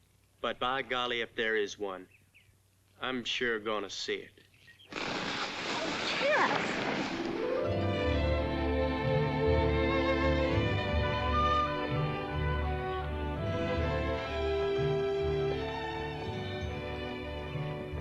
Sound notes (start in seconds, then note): 4.8 fire hisses; 7.0 sentimental music